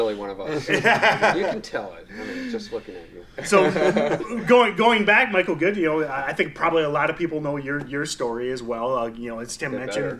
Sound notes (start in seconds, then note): 0.5 all laughing loudly; 3.5 laughing loudly